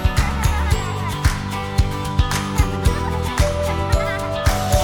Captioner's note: children laughing